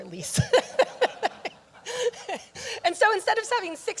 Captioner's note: audience laughing